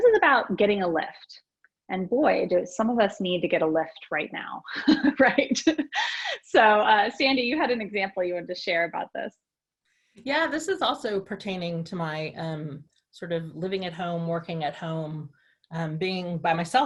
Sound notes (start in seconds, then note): 4.7 laughter